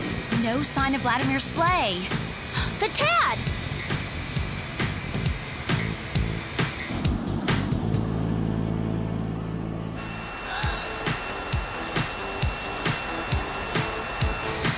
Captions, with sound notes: Well, OK. [disco music] No sign of Vladimir's sleigh. The TAD! [beeping]